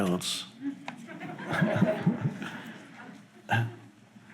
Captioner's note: audience laugh